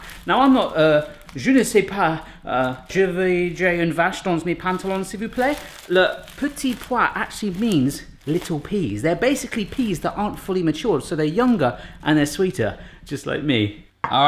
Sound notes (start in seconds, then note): 2.5 speaks jibberish